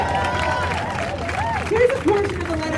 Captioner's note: crowd cheering